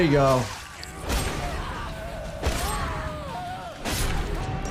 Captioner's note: both screaming